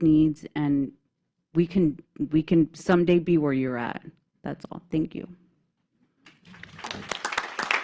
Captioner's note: applause